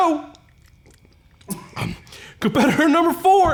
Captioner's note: tongue sloshing